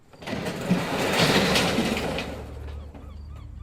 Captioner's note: door rolling; gulls squawking